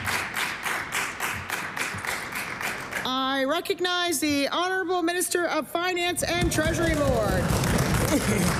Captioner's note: applause